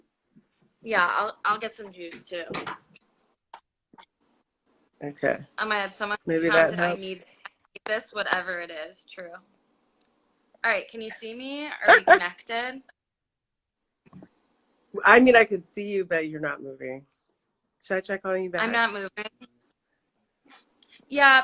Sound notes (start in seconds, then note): 11.8 laughs